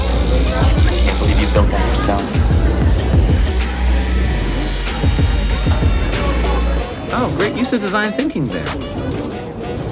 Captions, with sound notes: - I can't believe you built that yourself. (power tools buzzing) - Oh great use of design thinking there!